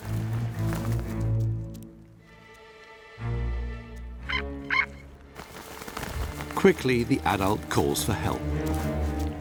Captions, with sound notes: [eagle calls] Quickly the adult calls for help.